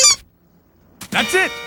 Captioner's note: squeak; antique car horn; telephone ringing